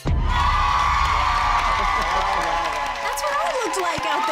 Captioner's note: everyone cheering